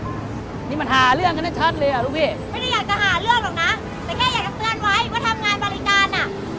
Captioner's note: speaking in foreign language